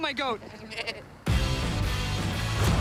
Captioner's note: goat bleating; rock music